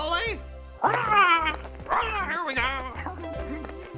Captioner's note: צווחות